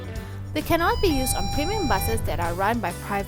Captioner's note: TIBS bell wow